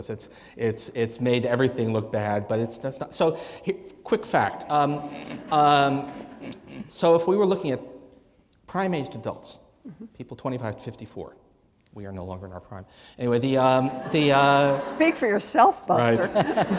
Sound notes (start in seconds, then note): 4.9 laughter